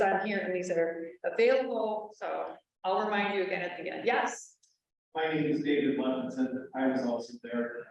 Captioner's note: audience speaking